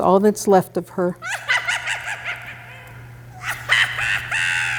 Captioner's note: creepy witch laugh